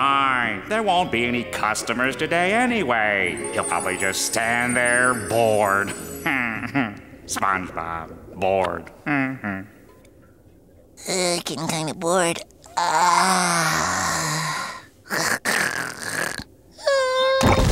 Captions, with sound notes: There won't be any customers today anyway. You'll probably just stand thee bored. [chuckles] SpongeBob, bored. [chuckles] Uh, getting kinda bored. [yawning] [snoring]